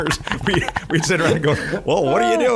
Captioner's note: laughing